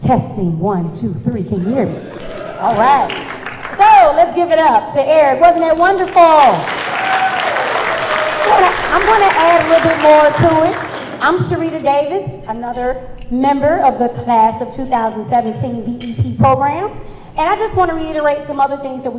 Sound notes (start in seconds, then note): 1.9 cheers and applause; 5.9 cheers and applause